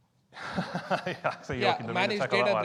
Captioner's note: laughs